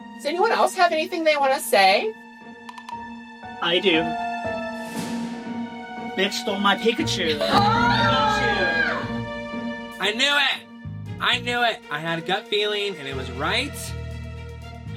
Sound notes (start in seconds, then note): 7.4 screams